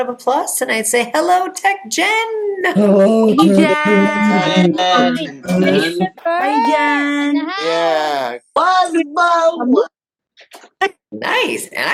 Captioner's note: audience shouting hello